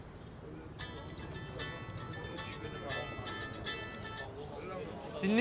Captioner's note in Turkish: Telefon çalıyor